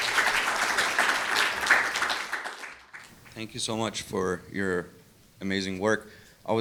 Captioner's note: applause